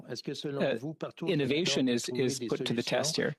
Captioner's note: speaking French